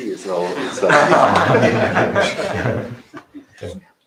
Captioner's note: laughter